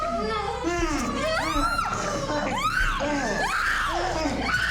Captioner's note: Ema screaming